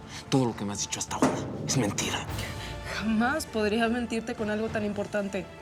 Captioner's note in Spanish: Manotazo